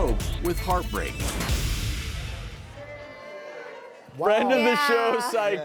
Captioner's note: audience discussing